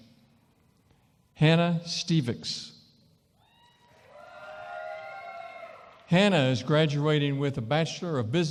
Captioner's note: cheering & applause